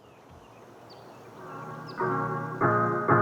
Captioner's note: birds singing